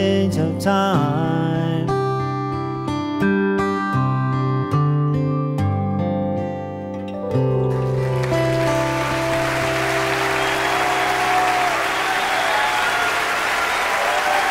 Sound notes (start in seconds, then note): 7.7 audience clapping; 8.0 audience cheering